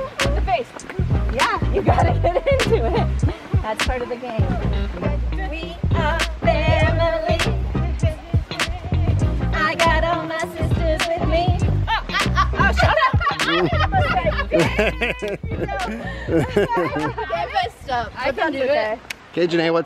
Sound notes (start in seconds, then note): 11.8 laughs; 11.9 exclaims